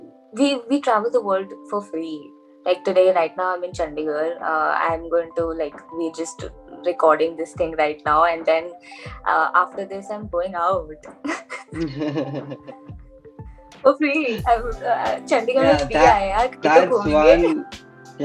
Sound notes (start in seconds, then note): 11.2 both laugh; 15.9 laughs